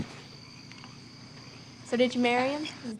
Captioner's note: frogs croaking